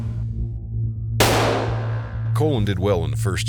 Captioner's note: gun fire